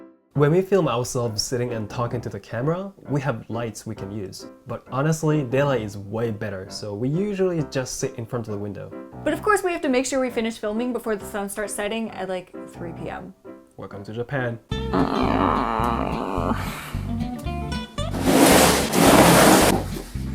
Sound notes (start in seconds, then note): 14.9 grumbling